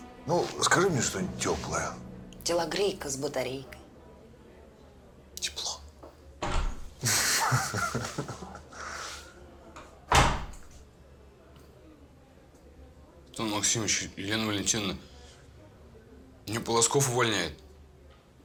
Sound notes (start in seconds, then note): 7.0 chuckles